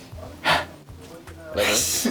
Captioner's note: gasp